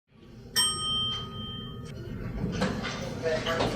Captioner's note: elevator bell